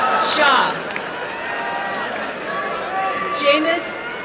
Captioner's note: applause and cheering